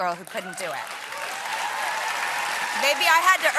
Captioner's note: applause